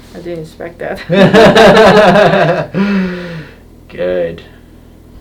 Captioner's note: laughing